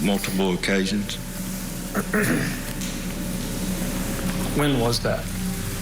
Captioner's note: clears Throat